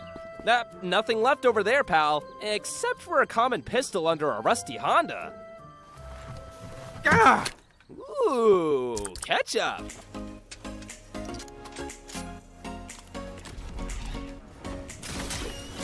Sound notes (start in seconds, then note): 6.5 yelling; 9.7 upbeat music playing; 10.7 gun shots